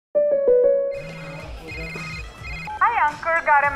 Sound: theme sound; phone ringing

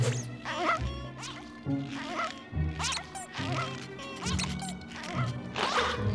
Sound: squeaking

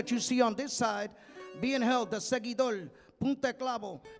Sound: speaking in Spanish

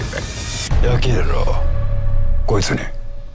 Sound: speaking in japanese

